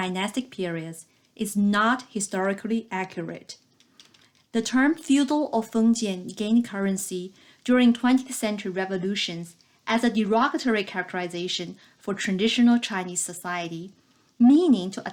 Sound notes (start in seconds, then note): 3.6 click